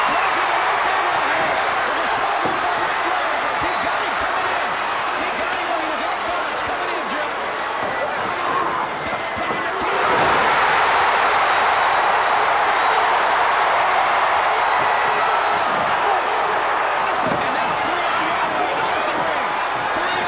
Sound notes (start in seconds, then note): 8.4 Nikita roars; 9.9 crowd's roar drown out commentary